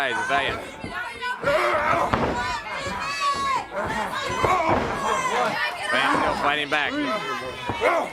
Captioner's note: crowd chatter